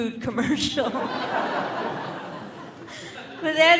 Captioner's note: audience laughing